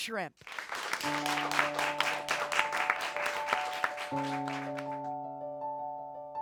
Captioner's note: audience applauds; gentle piano music